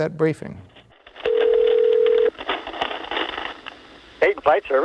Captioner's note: phone ringing